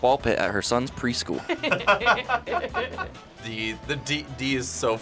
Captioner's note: laughing